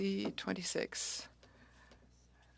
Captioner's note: speaking French